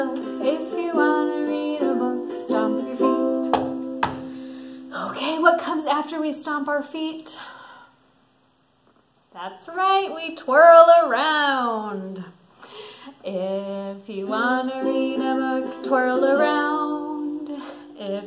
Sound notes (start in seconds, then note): 3.4 feet stomping